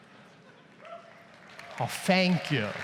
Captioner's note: audience cheers and applauds